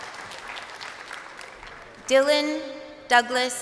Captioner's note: crowd cheering